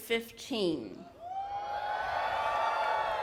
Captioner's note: applause